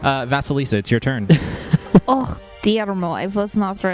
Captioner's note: laughs